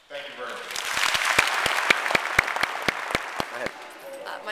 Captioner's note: applause